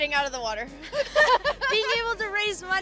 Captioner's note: laughing